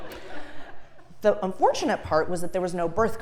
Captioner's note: laugh